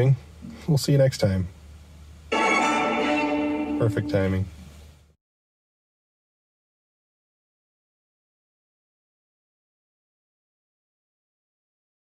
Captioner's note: phone Notification